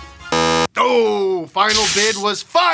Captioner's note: buzzer sounds